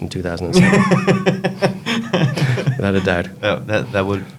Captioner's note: laughs